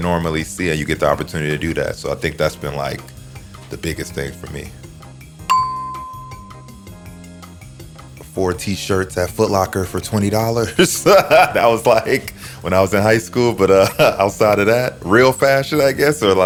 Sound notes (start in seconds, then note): 10.6 laughs